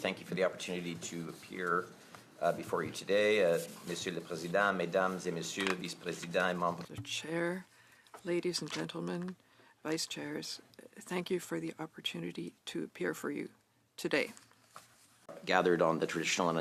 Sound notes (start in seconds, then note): 8.5 speaking French